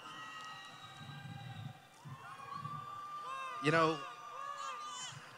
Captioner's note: cheering